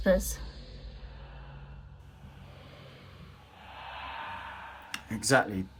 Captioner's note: ghosts whispering